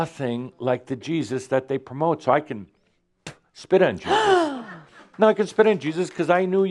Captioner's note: gasps